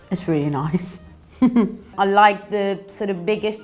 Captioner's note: chuckles